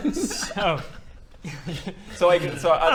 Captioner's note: laughs